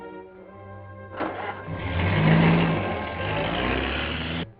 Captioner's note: engine rumbling